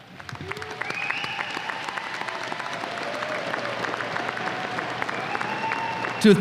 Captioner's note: applause and cheers